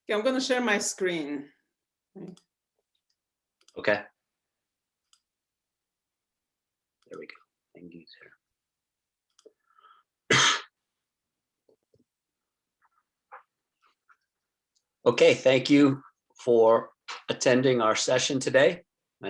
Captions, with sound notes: - Yeah, I'm gonna share my screen. - Okay, here we go, end user. (coughs) Okay, thank you for attending our session today.